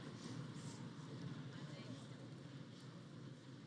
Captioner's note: none